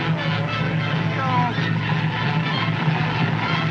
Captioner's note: groans